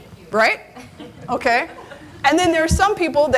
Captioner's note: audience laughing